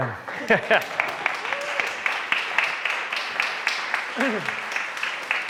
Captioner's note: laughs; audience applauds